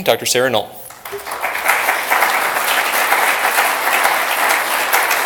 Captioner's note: applause